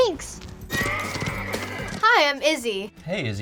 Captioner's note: horses neighing